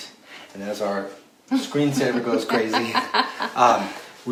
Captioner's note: laughs